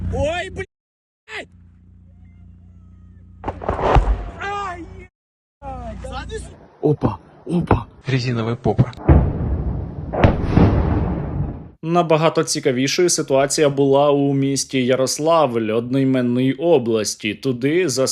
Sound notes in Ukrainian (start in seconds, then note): 3.4 вибух; 8.9 вибух; 8.9 серія вибухів